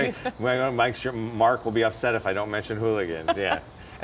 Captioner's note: laughing